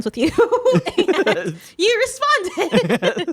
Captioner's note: laughing